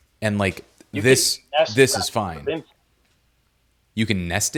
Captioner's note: audio speaker drowns out